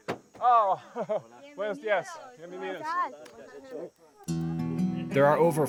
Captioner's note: all speaking Spanish